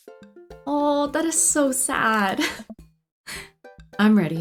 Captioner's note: laughs